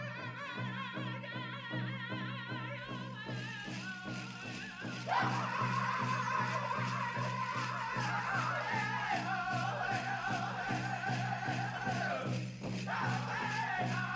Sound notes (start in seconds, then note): 0.2 lead singer sings; 3.4 regalia ornaments rattling; 5.4 singers singing with high cadence